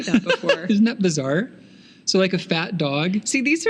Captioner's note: laughing